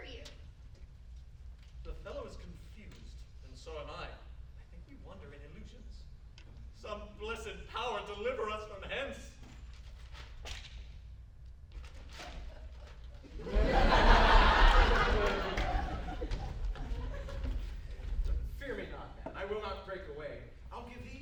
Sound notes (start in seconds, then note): 14.0 shuffling